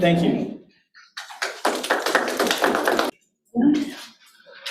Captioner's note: audience claps